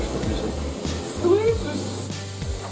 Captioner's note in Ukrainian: Загрозливо